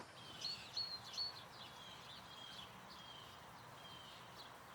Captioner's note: birds chirping